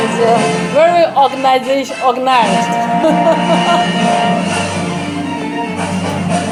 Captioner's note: laughs